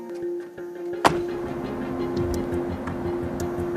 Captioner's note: door slamming